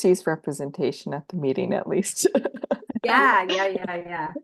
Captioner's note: chuckles